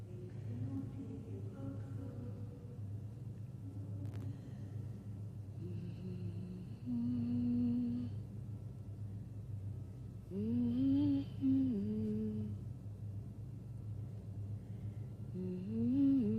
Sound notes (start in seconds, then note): 6.0 humming sadly